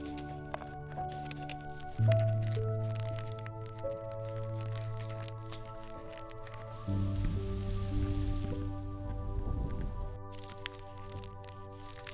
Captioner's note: soft crackling sounds